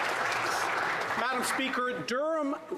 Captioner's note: some Applause